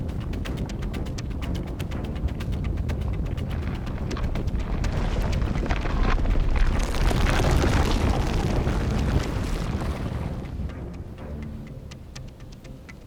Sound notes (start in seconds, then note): 6.7 ground cracking